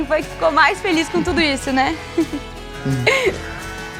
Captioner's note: laughter